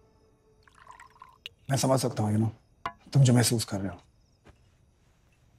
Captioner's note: Drink pouring